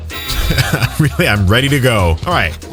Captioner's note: chuckles